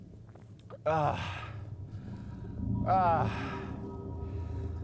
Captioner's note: Carter groans